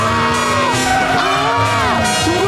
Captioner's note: screaming